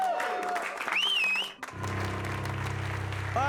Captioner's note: whistling